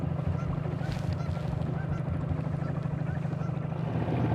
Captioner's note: engine chugging